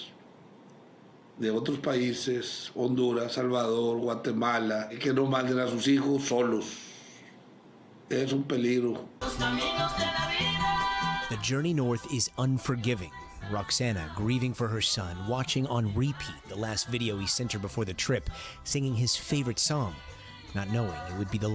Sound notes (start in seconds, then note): 8.1 speaking non-english